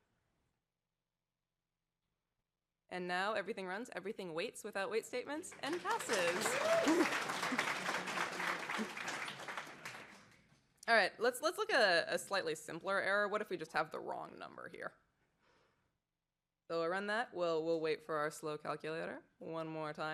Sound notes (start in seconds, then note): 5.4 applause